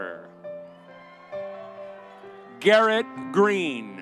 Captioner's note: audience cheering